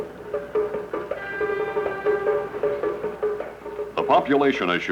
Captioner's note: car horn